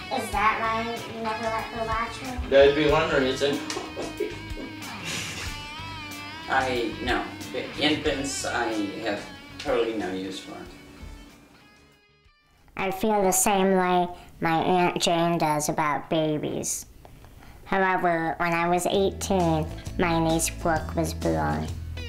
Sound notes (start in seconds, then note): 3.3 giggles